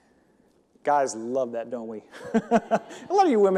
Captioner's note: chuckles